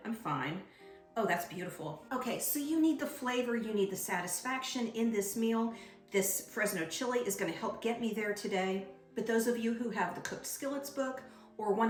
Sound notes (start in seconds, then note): none